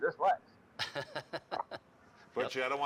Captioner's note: laughter